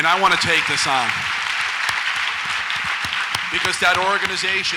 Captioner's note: audience applauds